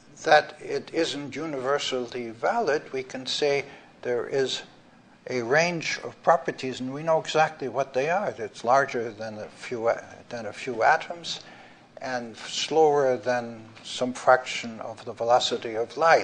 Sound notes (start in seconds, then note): none